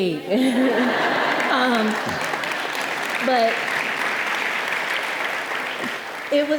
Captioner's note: audience laughing and applauding